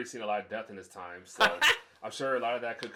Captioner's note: laughing